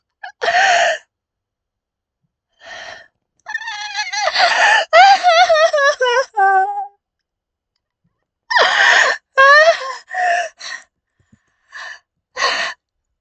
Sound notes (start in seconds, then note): 2.5 traumatised vocalisations of fear